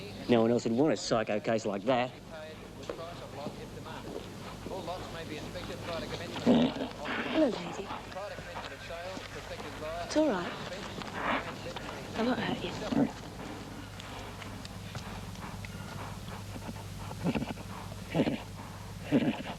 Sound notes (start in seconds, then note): 2.4 announcer speaking through PA